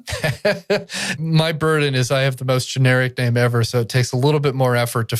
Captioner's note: laughs